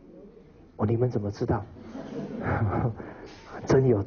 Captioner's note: audience laughter